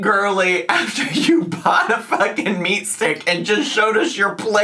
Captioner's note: laughing